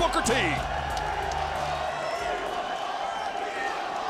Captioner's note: audience shouting